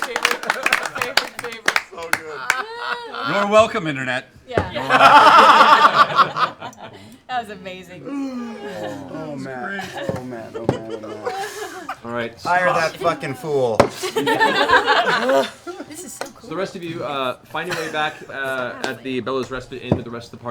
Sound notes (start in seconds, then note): 0.0 cheering; 13.9 laughter